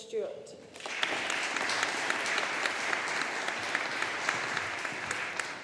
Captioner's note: audience applauding